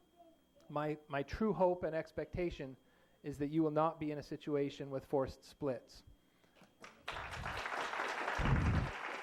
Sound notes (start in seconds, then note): 6.8 applause